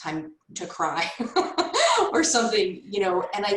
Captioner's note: laughs